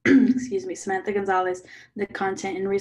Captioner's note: clears throat